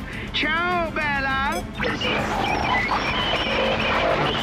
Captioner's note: radio static